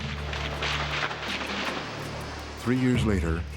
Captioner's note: gunshots